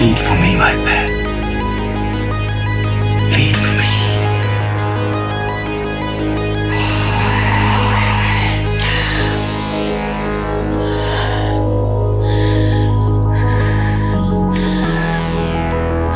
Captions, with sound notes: Bleed for me, my pet. Bleed for me. (slow electronic music) (Gaunt Man growls) (Lamya gasps) (slow electronic music)